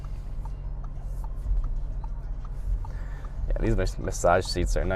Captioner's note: ticking